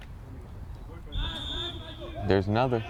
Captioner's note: whistle